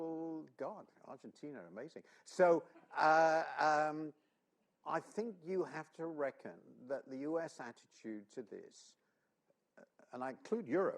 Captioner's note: laughter